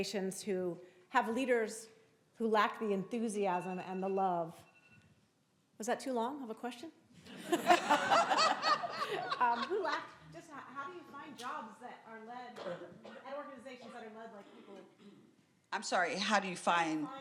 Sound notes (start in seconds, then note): 7.3 crowd laughing